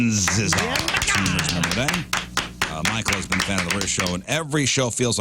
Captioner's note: all Clapping